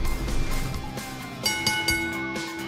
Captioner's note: bell ringing